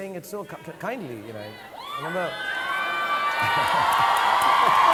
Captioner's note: audience cheering